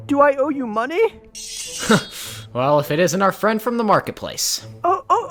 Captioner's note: chuckles